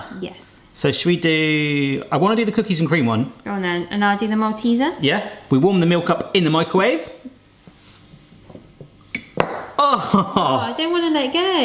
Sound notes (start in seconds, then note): 9.3 ball clatters